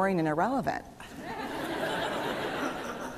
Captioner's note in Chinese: 笑聲